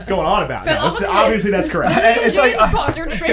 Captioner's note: accented